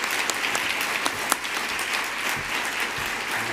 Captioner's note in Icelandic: fagnaðarlæti